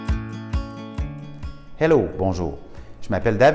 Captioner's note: speaking French